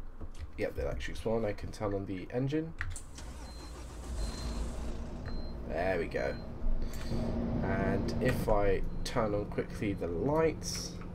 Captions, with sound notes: Yep, the electrics are on. I can turn on the engine. [Engine Starts] There we go. And, if I turn on quickly the lights.